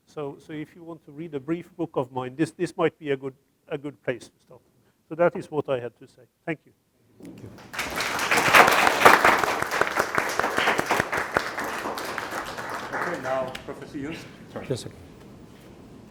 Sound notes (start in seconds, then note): 7.4 audience applauding